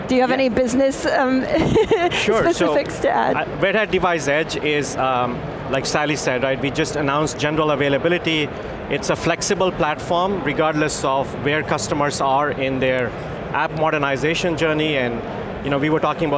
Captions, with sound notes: Do you have any business >> Yeah? (laughs) specifics to add? >> Sure, so Red Hat Device Edge is like Sally said, right? We just announced general availability. It's a flexible platform regardless of where customers are in their app modernization journey. And you know, we were talking